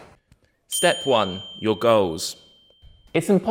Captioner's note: bell dings